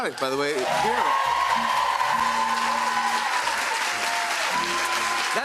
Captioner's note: cheers and applause